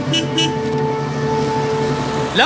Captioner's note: horn Beeps